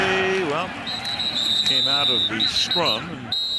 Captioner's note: whistle